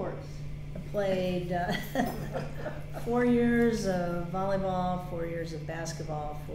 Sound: chuckles

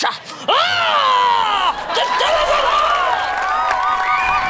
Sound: yelling

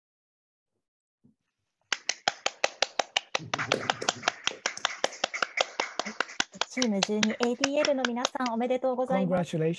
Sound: applause

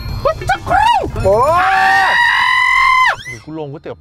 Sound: screams

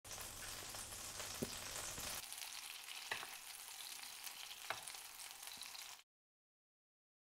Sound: sizzling sound

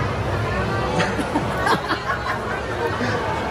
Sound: laughing

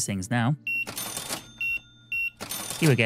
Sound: beeping

